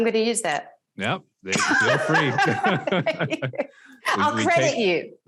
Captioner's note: both laugh